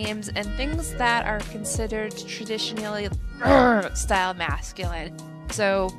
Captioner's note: aggressive grunt